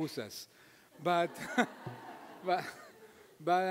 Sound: audience laughing

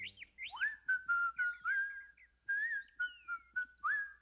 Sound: whistling

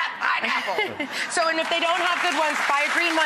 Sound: audience applause

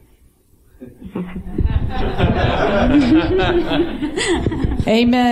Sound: laughter

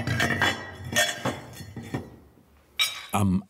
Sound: metal clanking

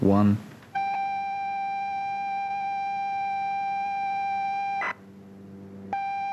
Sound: computer noise like a single tone

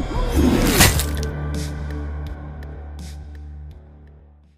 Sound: splattering

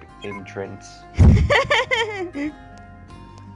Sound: laughs

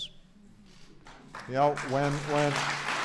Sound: applause

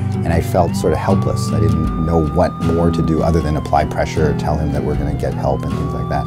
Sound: ambulance sirens

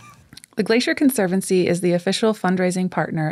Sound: laughs

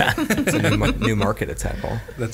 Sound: laughing

